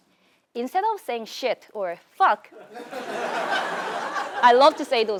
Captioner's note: laugh